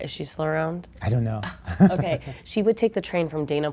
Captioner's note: laughter